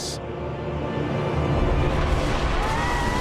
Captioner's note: lightning crashes; shrieking